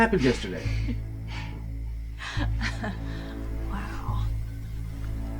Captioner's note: laughing